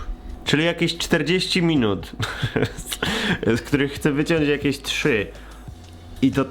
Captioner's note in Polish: śmiech